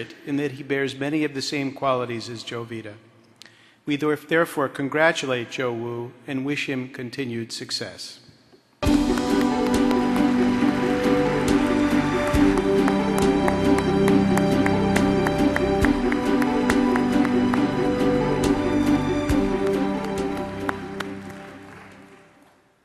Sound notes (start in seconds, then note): 9.7 applause; 9.7 triumphant orchestra music